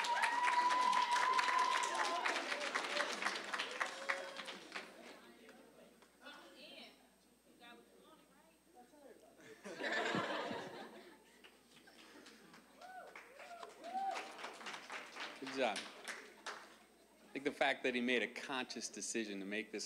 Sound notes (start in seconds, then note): 0.0 applause, cheering; 9.5 audience laughing; 13.0 applause